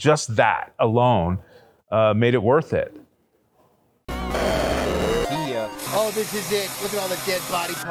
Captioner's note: gaming sounds; static sound